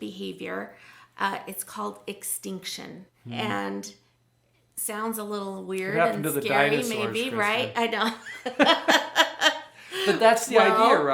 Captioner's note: laughs